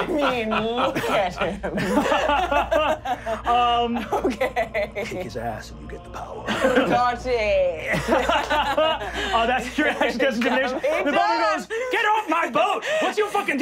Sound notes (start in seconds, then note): 0.0 laughing; 2.1 laughing; 8.3 laughing